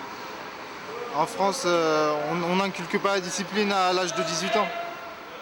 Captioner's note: French spoken audio